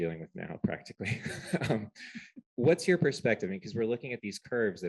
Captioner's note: laughter